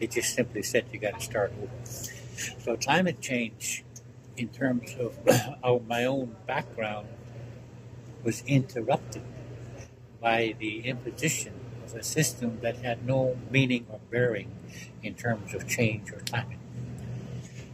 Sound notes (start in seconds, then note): 5.1 coughs